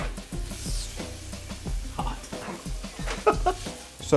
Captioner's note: hissing; laughing